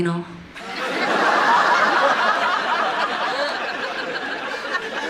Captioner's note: audience laughing